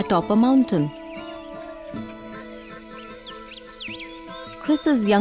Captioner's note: birds chirpping; soft gentle music